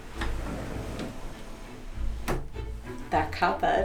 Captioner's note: door sliding open